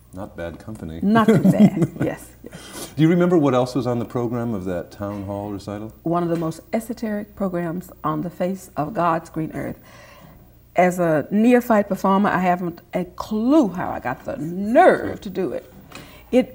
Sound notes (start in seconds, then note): 1.1 laughter